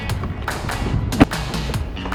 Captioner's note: car door slam